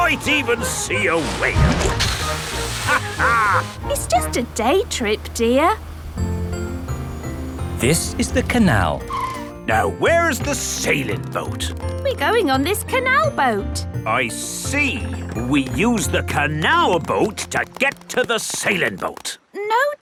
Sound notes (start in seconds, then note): 2.8 captain dog laughs